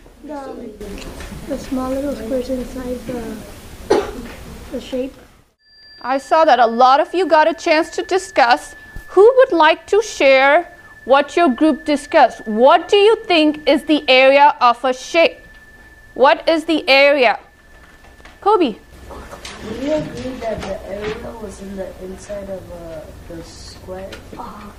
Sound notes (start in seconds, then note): 5.7 chime